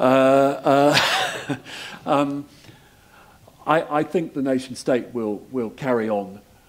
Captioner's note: laugh